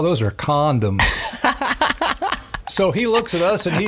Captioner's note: laughing